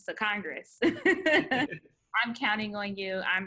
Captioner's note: laughs